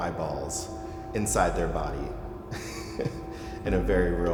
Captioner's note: laughs